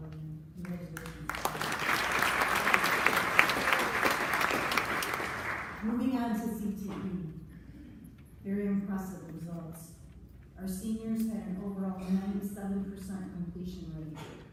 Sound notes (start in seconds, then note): 0.6 applause